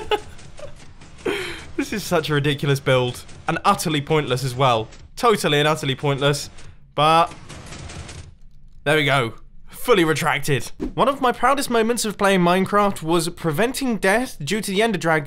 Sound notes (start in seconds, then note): 1.2 laugh